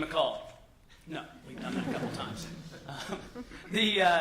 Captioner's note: laughter